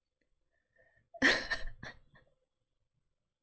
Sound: laughs

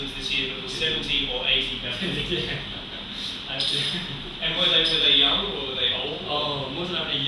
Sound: Chinese spoken; laughter

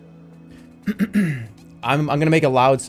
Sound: clears throat

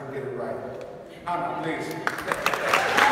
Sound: applause

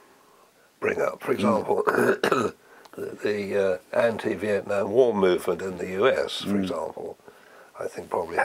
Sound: cough

